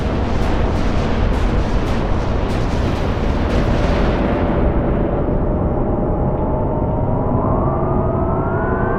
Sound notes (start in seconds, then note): 0.6 missiles firing; 6.1 engine roaring